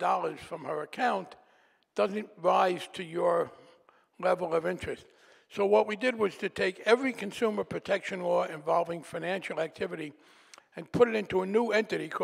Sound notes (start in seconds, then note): none